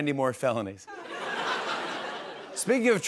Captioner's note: laughter